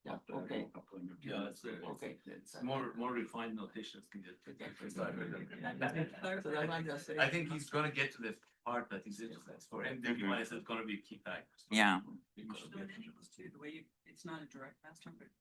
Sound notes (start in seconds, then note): 4.0 people chatter; 12.2 people chatter